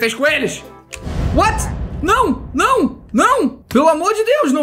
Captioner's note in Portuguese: som de perigo